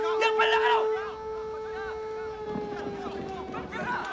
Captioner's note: Korean; men Shouting In Korean